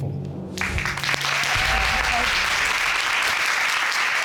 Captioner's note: applause